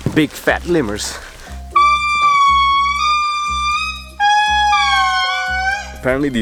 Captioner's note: lemurs howling